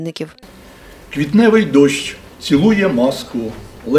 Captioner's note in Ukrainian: читає вірші